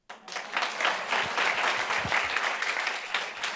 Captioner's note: group applauds